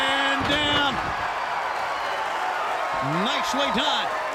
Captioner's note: crowd cheering